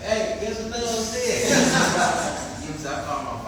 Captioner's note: laughter